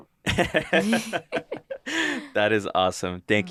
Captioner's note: laugh